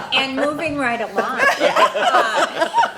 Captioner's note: laughs